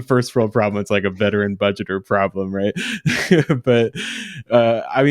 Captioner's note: laughs